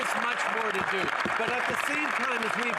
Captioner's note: some Applause